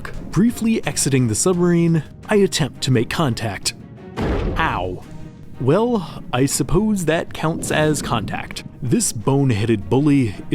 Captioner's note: bonk